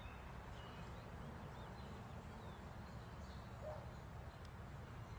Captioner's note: birds chirping